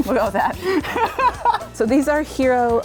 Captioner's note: laughs